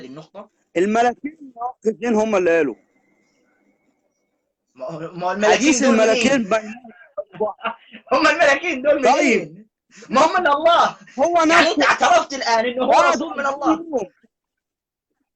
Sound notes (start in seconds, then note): 10.2 laughter